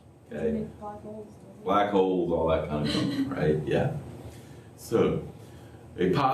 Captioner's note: laughter